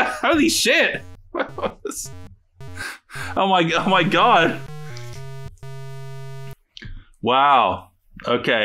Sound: laughs

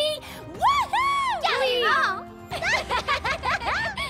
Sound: all giggling

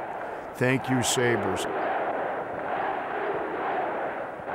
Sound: crowd chants

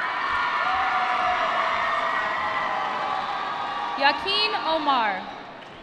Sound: applause

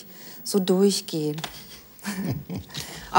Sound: laughter

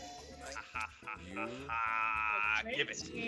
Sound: laugh

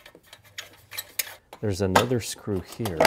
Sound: screws squeaking continues

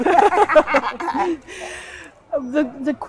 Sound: both laughing

